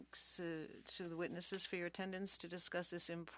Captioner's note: speaking French